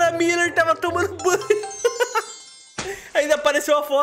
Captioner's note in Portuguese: risos